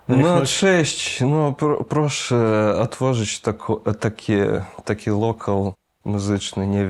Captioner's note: in Polish